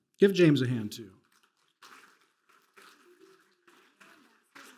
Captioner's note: applause